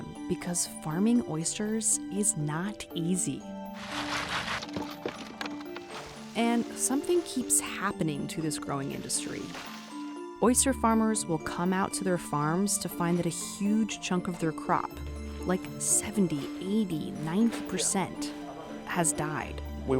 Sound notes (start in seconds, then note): 3.7 oysters clacking; 3.8 bright music